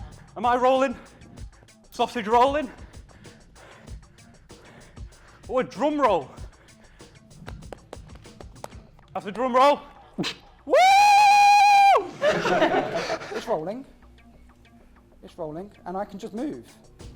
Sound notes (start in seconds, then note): 7.4 slaps legs; 12.0 laughter